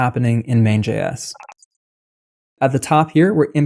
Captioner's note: beep